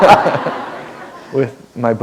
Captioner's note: laughter